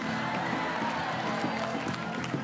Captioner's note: audience cheerin